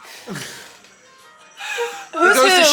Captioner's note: people laughing